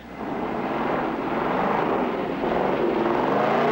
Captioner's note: engine revving